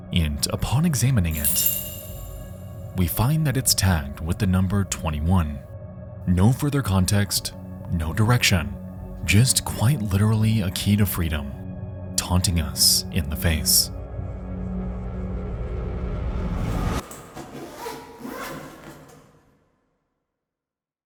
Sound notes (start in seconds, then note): 1.3 keys jingling; 16.3 air whooshing; 17.0 bag zipping